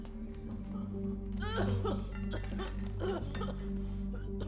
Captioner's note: coughing